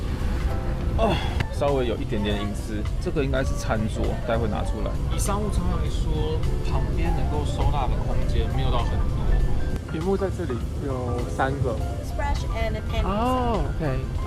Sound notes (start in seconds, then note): 1.0 groan